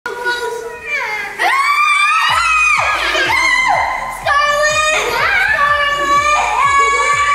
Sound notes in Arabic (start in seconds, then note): 0.6 أطفال يصرخون